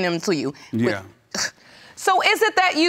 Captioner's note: scoffs